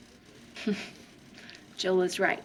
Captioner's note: chuckling